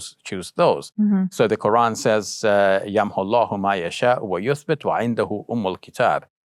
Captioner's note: speaking in Arabic